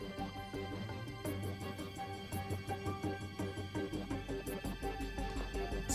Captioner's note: none